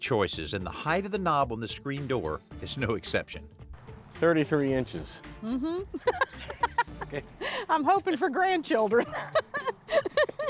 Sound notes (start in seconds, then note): 5.5 laughs